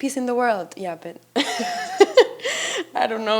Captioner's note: chuckles